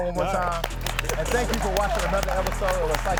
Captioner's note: audience clapping; upbeat music